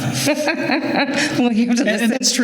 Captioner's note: laughter